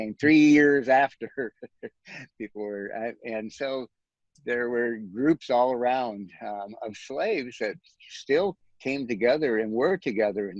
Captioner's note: chuckles